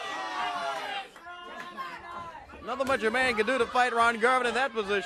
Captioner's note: crowd cheering